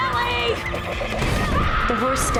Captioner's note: screams